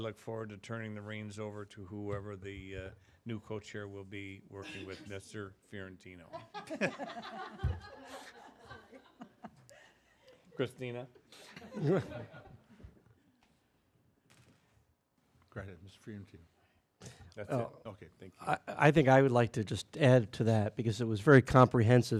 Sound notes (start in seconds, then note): 6.3 laughter